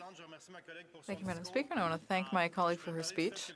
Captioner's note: speaking French